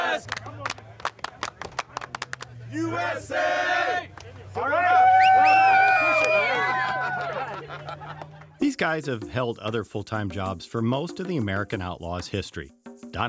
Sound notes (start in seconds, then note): 0.0 rhythmic clapping; 4.6 whistling and cheering